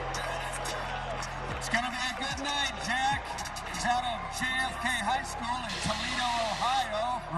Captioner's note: crowd noise